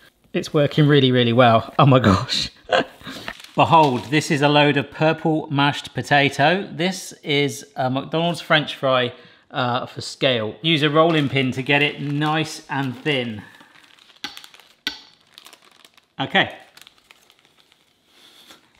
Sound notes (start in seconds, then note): 2.8 laughs; 13.7 object thudding; 13.7 paper rustling